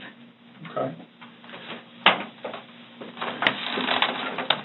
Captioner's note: door closing, computer moving on table